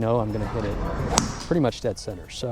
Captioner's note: golf club smacking